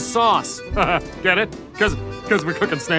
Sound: chuckles

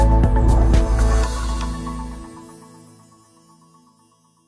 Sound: bright music; logo whooshing

